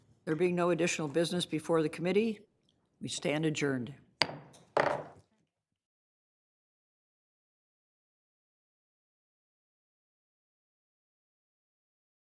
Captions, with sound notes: There being no additional business before the Committee, we stand adjourned. (gavel)